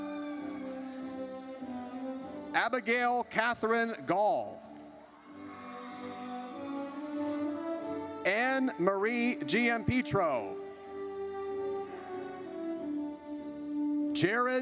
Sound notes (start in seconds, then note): 0.0 audience cheers; 4.7 audience cheers; 10.8 triumphant music